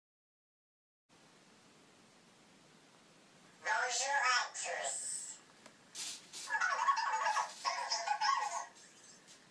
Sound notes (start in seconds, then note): 6.6 Cozmo's speaking "robot"